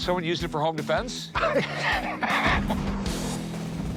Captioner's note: laughs